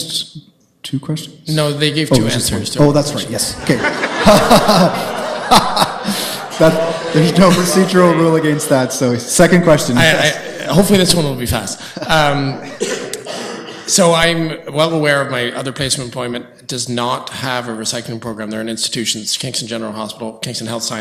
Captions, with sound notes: >> Thank, you and the other question was fairly simple. You may not have an answer today. >> Have you asked two questions? >> They gave to answers. (laughs) >> No procedural rule against that. Second question. >> Hopefully this one will be